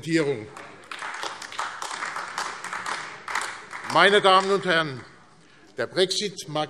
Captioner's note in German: Beifall AfD